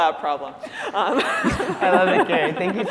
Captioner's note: laughter